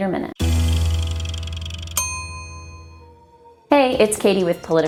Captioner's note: meter ticks, dings